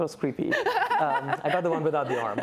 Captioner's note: laughs